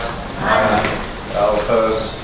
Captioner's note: A chorus of ayes